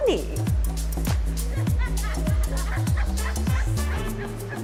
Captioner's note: laughter